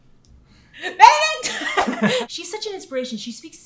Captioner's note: laughing